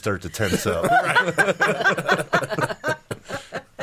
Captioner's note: laughing